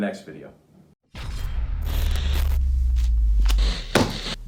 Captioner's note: electricity zaps